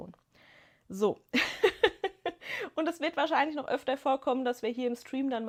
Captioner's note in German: gelächter